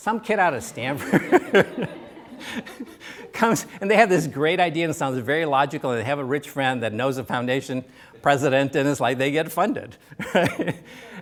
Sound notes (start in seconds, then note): 2.3 laughter; 3.3 laughs